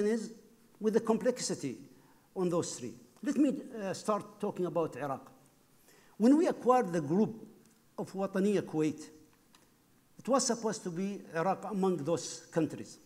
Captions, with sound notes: is the complexity of those three. Let me start talking about Iraq. When we acquired the group of (speaking foreign language), it was supposed to be Iraq among those countries.